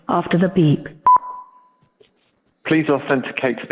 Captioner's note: beeping